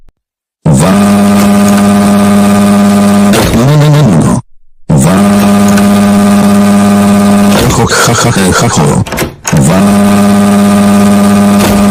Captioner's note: Dave Crying Like a Lawnmower